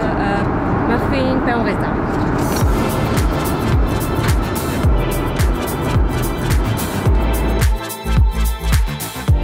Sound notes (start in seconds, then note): 1.4 speaks in French; 2.4 upbeat music